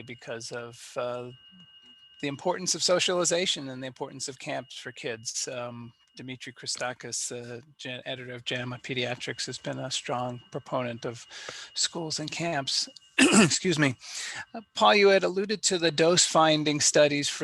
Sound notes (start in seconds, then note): 13.2 coughs